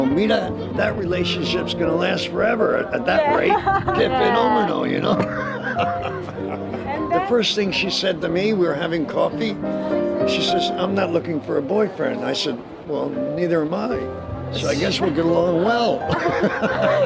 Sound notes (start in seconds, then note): 4.8 laughing; 16.0 laughing